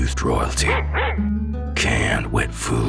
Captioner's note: Wolf3D bark